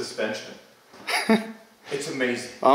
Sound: laughs

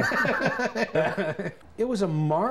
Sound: laughs

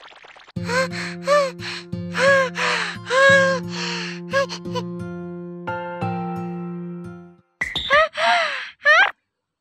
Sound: gasp

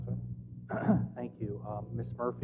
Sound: cough

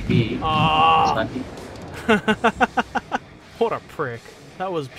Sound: laughter

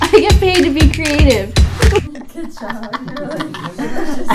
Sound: laughing

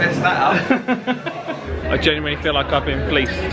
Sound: laughs

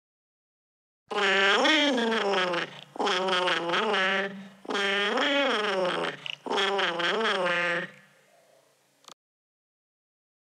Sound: creature sing

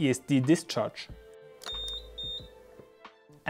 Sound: beep Sounds

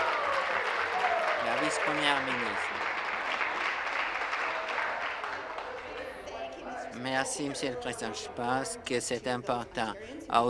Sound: applause

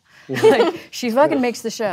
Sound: laughter

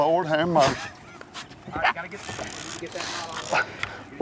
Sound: reeling noises

